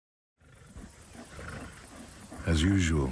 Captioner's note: lions grunting